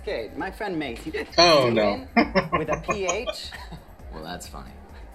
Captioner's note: laughing